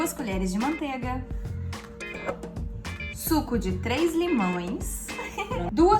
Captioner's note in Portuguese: risadinha